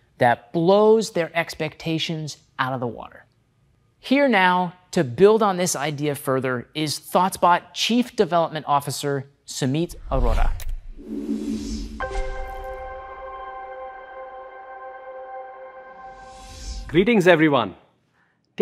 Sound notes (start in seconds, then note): 9.9 whooshing; 11.9 gentle music